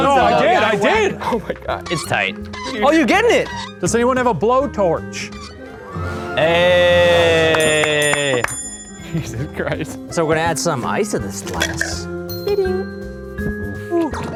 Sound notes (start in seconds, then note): 5.6 triumphant music; 7.1 bell ringing